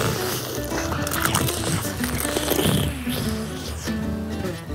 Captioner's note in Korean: 바사삭